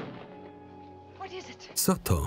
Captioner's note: gunshot